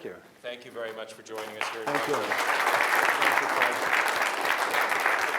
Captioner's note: applause